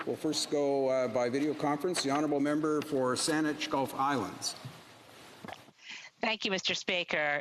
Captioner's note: speaking French